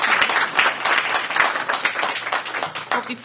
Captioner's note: applause